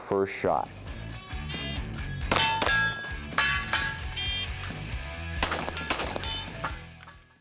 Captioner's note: upbeat music; gun shooting